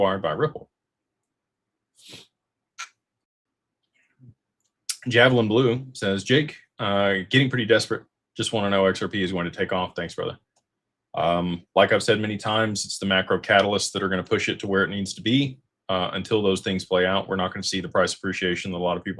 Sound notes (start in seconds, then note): 2.6 snorts